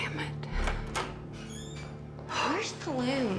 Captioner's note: exhales